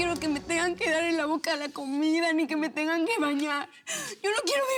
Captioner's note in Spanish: sollozos